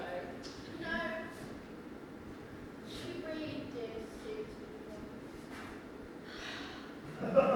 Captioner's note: sigh